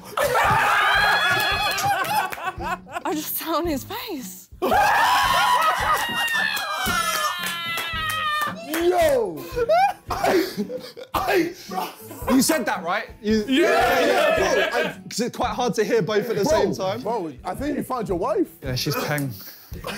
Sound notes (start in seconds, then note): 0.0 laughing; 4.6 screaming